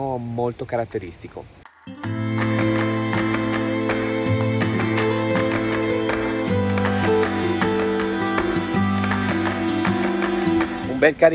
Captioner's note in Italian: Applauso